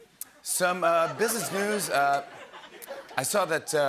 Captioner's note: laughter